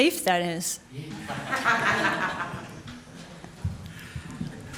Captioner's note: audience laughs